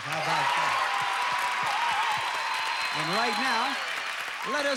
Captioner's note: audience applauding